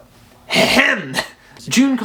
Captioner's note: cough Cough